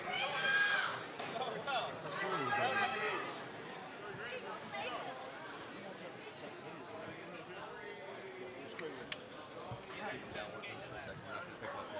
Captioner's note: crowd response